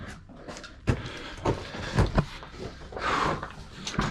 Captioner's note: heavy breathing